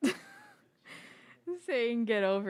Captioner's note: laughs